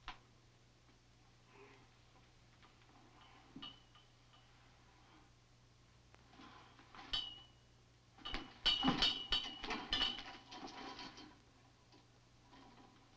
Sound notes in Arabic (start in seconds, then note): 8.2 أصوات ارتطام المعادن